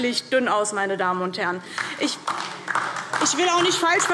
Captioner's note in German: Beifall DIE LINKE